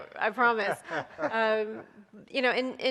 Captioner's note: guests laughing